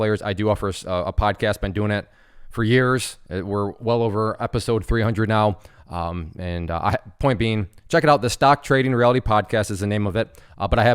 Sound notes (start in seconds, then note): none